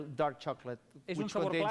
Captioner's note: non-english speech